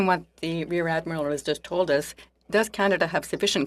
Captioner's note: speaking French